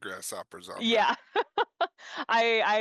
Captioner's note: laughs